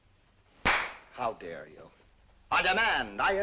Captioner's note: claps